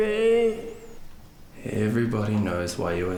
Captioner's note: moaning